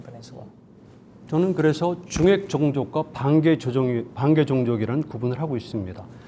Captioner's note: speaking in Korean